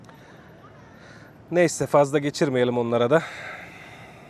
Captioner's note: sighs